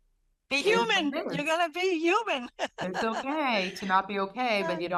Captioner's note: laughter